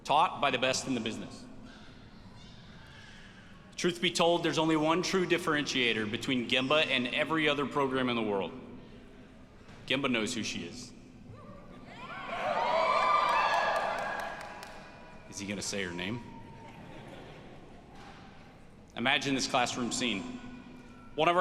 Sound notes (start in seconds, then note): 12.0 audience cheers; 16.6 audience laughs